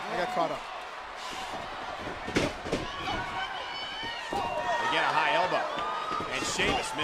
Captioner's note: applause